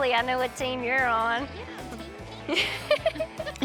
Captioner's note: giggling